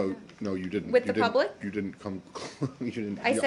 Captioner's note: laughter